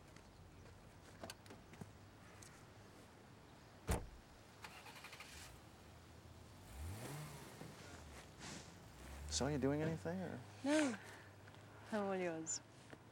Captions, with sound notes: [CAR ENGINE STARTS] SO, ARE YOU DOING ANYTHING OR... NO. I'M ALL YOURS.